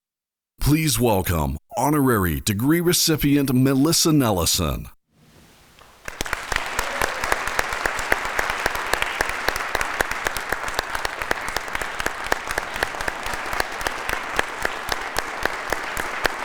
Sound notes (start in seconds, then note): 6.1 audience applauding